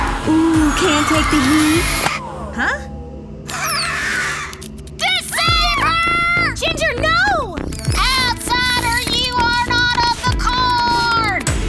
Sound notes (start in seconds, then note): 0.0 screeching; 3.4 screeches